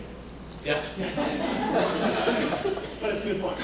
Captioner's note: audience laughing